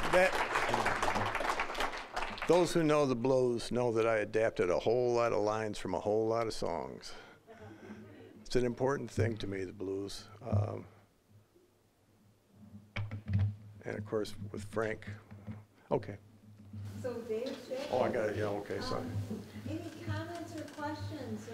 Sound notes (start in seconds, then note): 0.0 applause; 7.6 audience chuckling